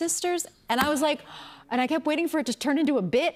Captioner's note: gasps